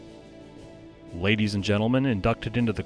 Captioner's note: voiceover